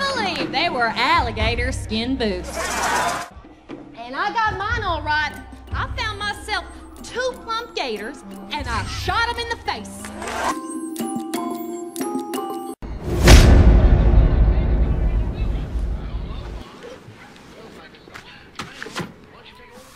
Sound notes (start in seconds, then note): 16.1 TV sound